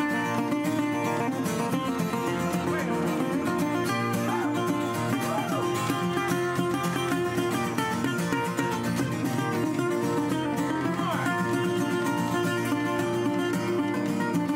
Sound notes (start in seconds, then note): 5.1 audience cheers